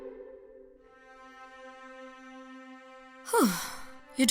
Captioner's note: sigh